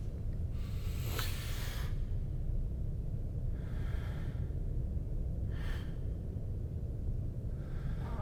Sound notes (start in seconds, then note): 3.5 heavy breathing